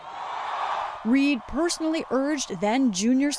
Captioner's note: cheering and applause